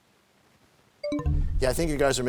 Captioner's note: bell chimes, time expires